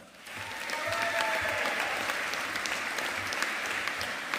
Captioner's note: audience applauding